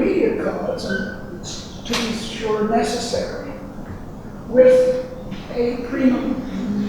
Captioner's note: banging drowns out speaker